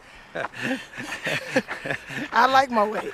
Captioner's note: laughter